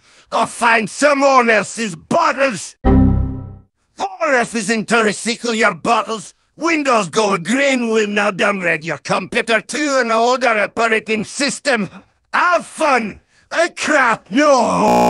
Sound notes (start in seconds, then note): 2.8 Windows XP error sound; 14.8 glitching